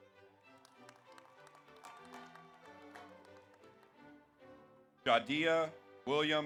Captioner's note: audience applauds; audience cheers